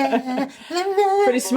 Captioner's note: laughing